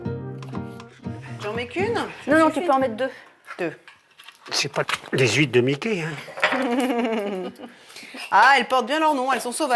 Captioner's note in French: rires